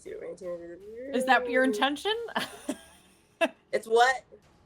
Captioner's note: laughing